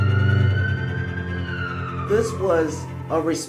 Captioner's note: siren wailing